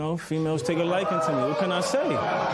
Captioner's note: spectators murmur